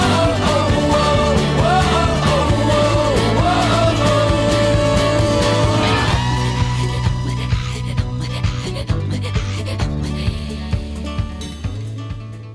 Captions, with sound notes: (speaking foreign language) Thank you all for joining us on this incredible journey. (speaks in Inuktitut)